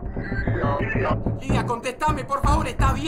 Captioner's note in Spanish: Golpes